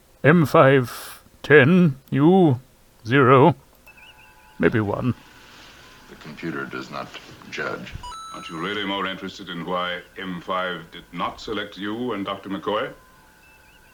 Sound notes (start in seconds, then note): 8.0 Mario coin jingle